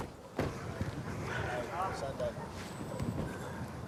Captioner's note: indistinct chatter